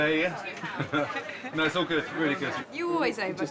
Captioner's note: laughs